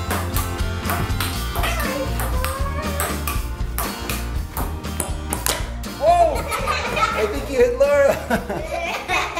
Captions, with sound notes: (laughing) I think you hit Laura.